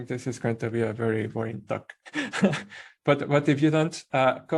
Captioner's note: laughing